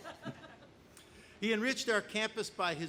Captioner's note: laughing